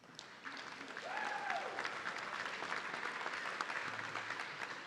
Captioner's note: audience cheering